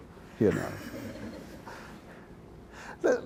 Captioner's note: laughter